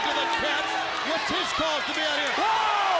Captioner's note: crowd chatter; crowd cheering